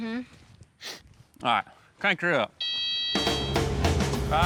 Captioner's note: sniffs; excavator beeps